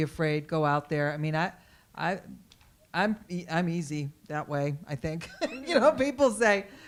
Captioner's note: laughs